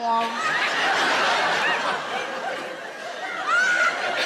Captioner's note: audience laughs